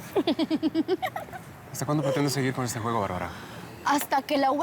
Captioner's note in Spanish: Risas